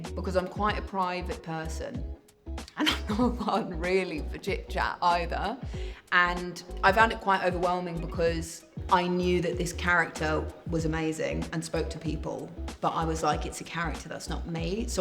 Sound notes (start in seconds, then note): 2.7 laughing